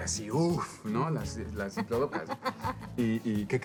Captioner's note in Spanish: Ríe